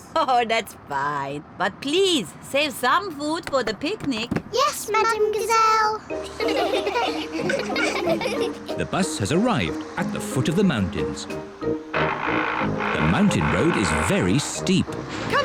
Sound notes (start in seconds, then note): 6.2 all giggle